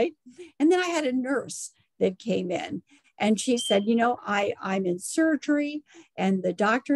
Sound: alarm sound

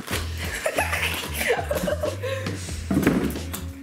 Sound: laughing

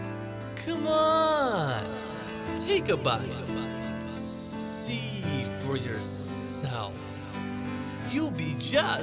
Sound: echoing

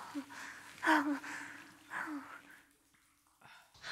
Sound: Brigit panting

